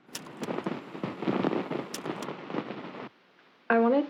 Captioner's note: static buzzing